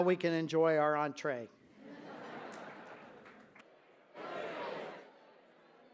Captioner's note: laughter